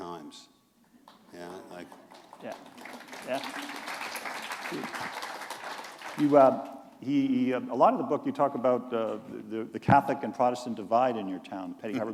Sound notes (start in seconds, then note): 1.1 applause